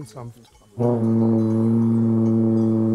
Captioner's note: blow